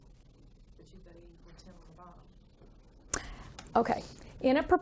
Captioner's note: student speaking faintly